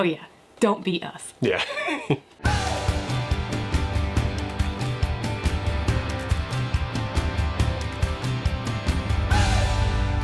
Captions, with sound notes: - Oh yeah, don't be us. - Yeah. (chuckles) (cheerful energetic music)